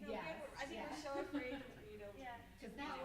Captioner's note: stammers